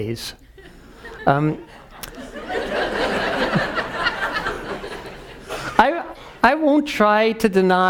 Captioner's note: laugh